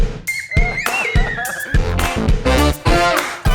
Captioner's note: children squealing